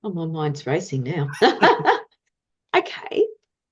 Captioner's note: both laugh